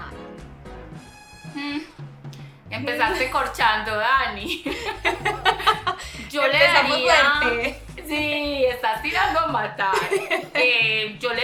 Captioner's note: laughs